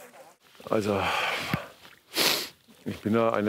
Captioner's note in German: Er schnieft